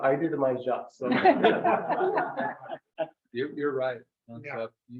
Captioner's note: members laugh